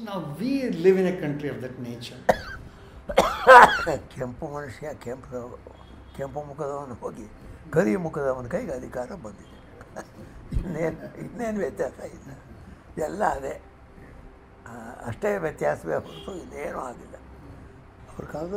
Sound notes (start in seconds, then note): 3.0 coughs